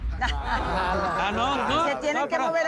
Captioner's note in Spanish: Risas